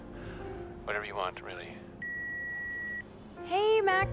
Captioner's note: line beeps